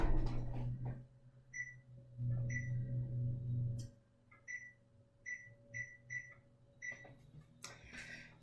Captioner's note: oven beeps